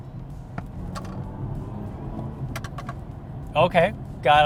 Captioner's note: engine revving